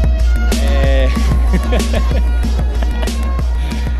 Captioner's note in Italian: risate